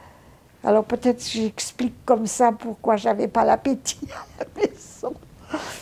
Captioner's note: laughing